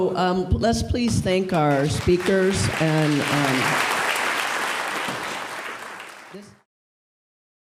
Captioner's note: audience applauds